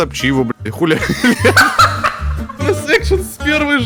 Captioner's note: laugh